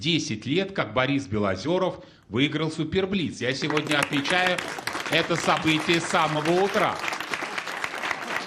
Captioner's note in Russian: аплодисменты